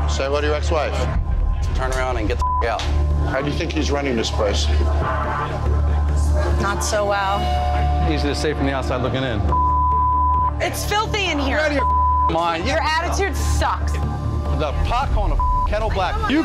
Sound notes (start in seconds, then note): 2.4 beep; 9.4 beep; 11.8 beep; 15.4 beep